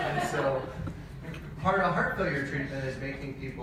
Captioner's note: audience laughs